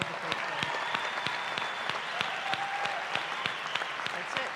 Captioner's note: cheering